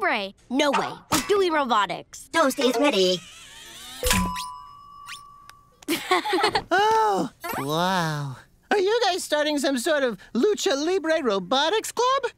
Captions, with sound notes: No way. I'm doing Robotics. Toast is ready. [laughing] Oh! Wow. Are you guys starting some sort of Lucha Libre Robotics Club?